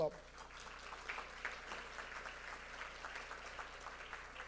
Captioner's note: audience applauds